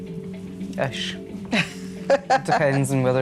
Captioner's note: laughs